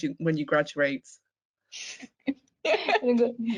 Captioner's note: laugh